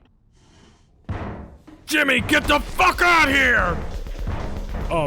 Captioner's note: Swansea bangs on the door